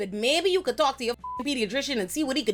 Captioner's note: beep